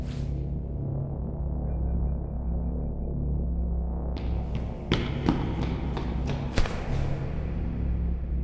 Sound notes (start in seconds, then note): 0.0 ominous music; 4.2 foot steps running